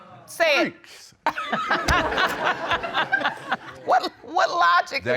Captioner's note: all laughing